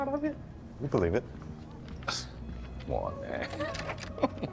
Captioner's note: scoffs